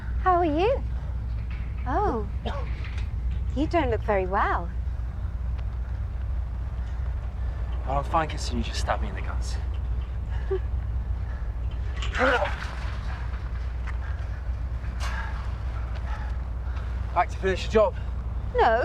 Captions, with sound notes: How are you? Oh, you don't look very well. - I'm fine considering you just stabbed me in the guts. (Betty Giggles) (Percival shouts) - Like to finish the job? - No.